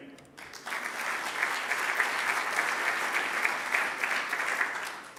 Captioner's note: audience applauding